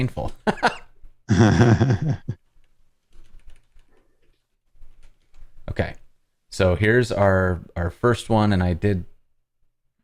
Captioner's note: laughter